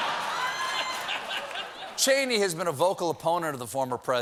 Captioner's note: laughter